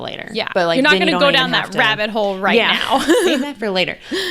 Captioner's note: laughs